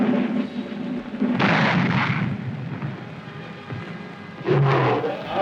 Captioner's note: bomb explodes; lion roars